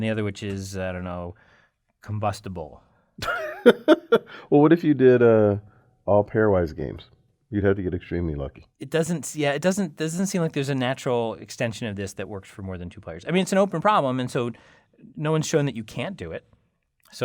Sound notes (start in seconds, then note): 3.2 laugh